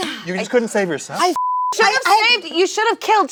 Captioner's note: beep